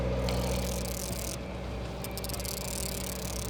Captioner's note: reel clicking